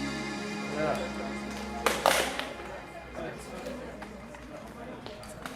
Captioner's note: people chattering